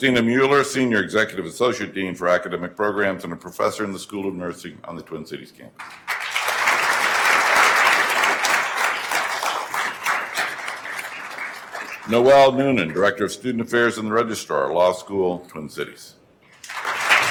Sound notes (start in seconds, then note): 5.8 attendees applauding